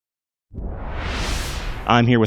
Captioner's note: wooshing Sound